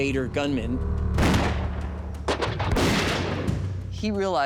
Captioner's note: gunfire